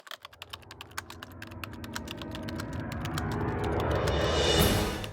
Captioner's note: typewriter sounds